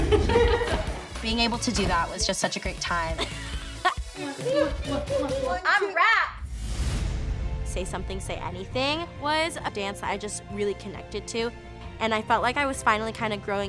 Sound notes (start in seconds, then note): 3.2 laughs; 3.3 kissing